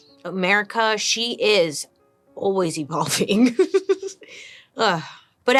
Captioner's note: chuckles